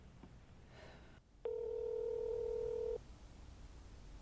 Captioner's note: phone ringing